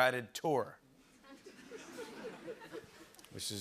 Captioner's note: light laughter